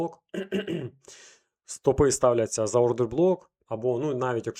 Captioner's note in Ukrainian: прочищення горла